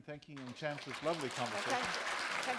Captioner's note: applause